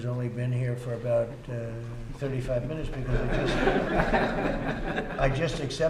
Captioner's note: laughter